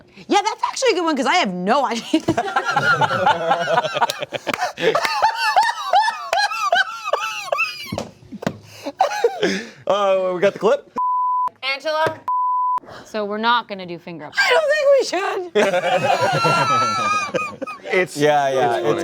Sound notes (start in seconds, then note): 2.5 cast laughs; 15.6 cast laughs